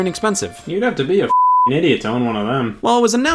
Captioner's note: beep